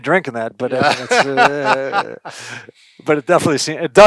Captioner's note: laughs